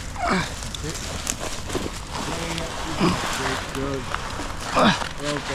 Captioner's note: group chattering; leaves rustling